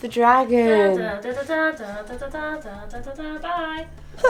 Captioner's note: second speaker hums theme song